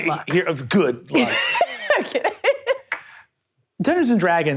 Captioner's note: laughs